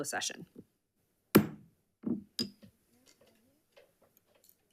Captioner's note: gavel thudding